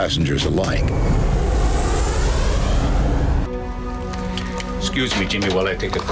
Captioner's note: plan engine roaring